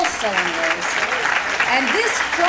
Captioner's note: applause